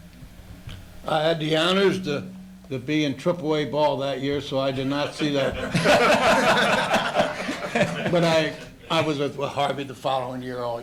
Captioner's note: laughter